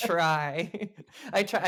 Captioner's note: both laugh